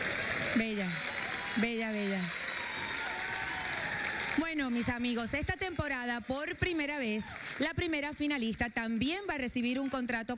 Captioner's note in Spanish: aplausos